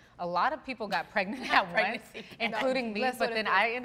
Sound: laughs

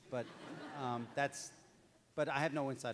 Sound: audience laughs

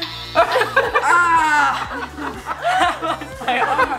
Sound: laughing; yelling; laughing

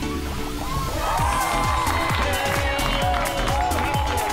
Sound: cheers and clapping; cheers

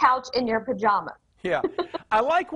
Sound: laughs

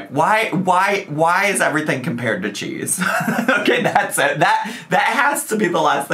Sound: laughs

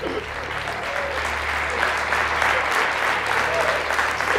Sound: audience applauds

